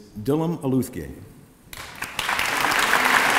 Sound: applause

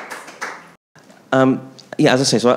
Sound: audience applauding

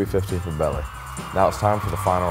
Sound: crowd cheering

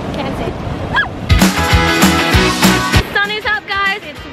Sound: shrieks

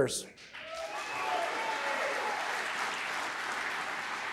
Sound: applause

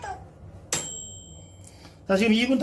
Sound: ding - microwave bell

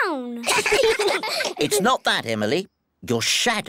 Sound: all giggle

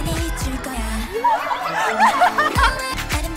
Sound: heart pounding

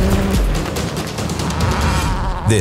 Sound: engine whining

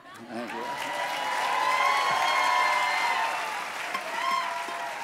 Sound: crowd cheering

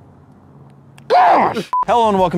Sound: dying bear

